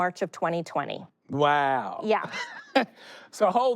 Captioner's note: chuckles